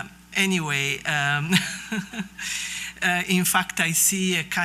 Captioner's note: laughs